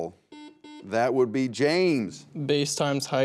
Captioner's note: buzzer beeps